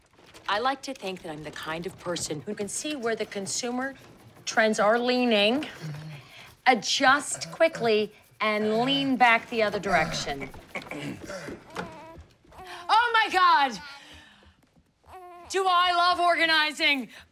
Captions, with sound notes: I like to think that I'm the kind of person who can see where the consumer... trends are leaning, adjust quickly, and lean back the other direction. [ Grunting ] [ Baby cooing ] Oh, my God! Do I love organizing!